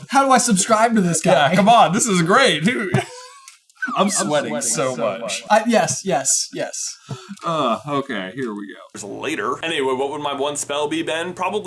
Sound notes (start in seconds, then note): 3.8 slide whistle blows